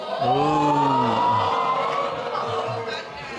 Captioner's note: audience exclaiming